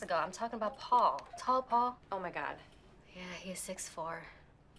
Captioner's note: none